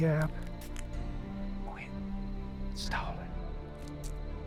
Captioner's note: whispers menacingly